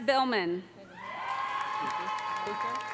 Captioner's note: audience cheering; audience applauding